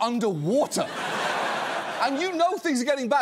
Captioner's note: audience laughs